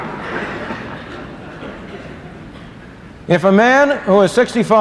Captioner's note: laughter